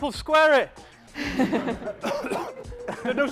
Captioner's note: coughing; laughter